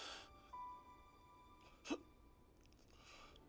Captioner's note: crying